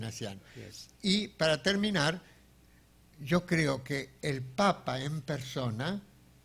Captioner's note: speaking in foreign language